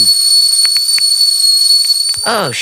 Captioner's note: Brooklyn cracks her knuckles